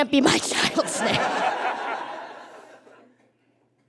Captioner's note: laughs; audience laughs